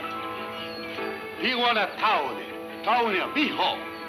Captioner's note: speaking in foreign language